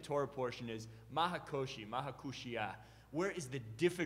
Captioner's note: speaking Hebrew